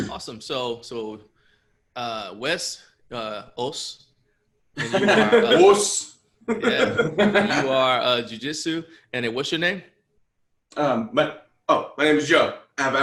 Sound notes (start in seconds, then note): 4.8 laughter